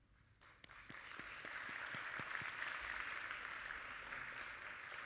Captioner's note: audience applauding